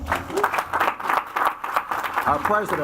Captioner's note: audience applauds